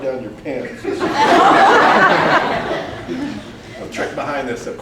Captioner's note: more loud laughter